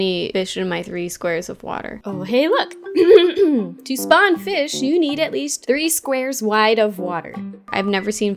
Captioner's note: ahem